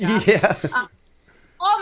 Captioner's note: chuckle